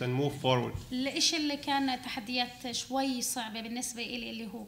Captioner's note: speaking arabic